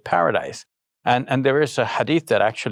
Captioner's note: speaking in foreign language